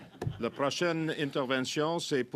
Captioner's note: laughter